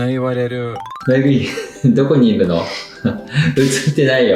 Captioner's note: laughs